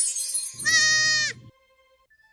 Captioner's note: bleats